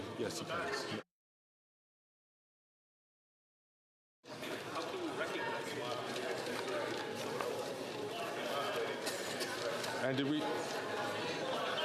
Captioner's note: calling of recorded vote